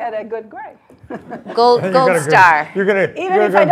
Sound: laugh

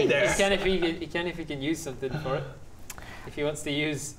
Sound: none

